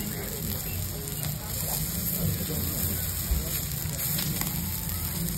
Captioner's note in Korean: 굽는 소리 asmr